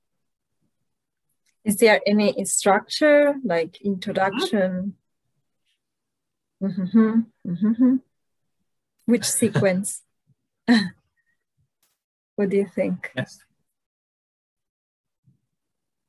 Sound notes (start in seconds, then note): 6.6 humms; 9.2 laughs